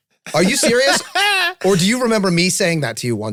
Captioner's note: Charlie laughs